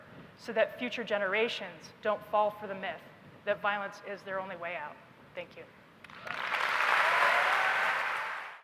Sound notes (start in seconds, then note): 6.0 applause